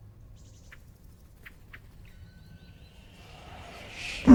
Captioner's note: insects chatter